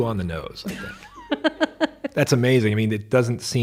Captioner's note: chuckles